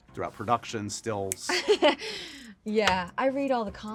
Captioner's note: laughing